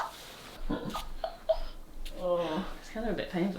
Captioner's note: giggles